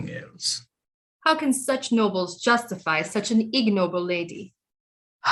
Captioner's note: sarcastically